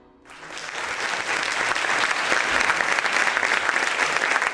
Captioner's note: applause